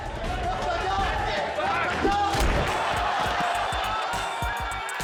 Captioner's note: crowd screaming